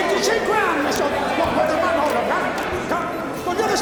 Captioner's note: crowd protests angry